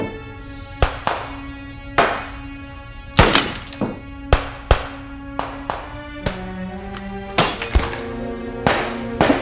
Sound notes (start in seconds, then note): 3.2 vase shattering; 4.9 guns firing